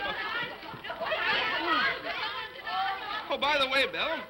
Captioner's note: laughs; children clamoring